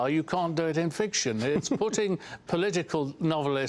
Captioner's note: laughter